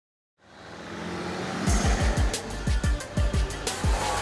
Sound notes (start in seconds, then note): 0.4 car engine revving; 1.6 upbeat music